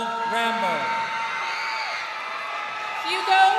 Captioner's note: crowd cheering